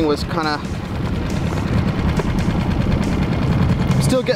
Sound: boat engine purring

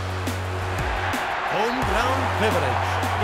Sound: fans cheering; hip-hop music

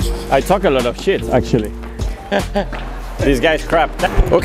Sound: laughs

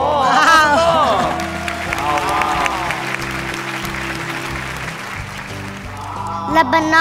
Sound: applause

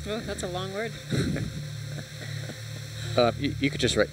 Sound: chuckle

